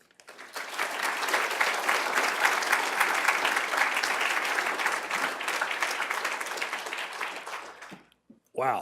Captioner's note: applause